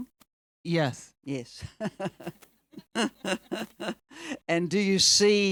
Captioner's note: chuckles